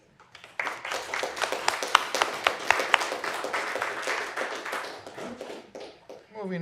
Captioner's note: applause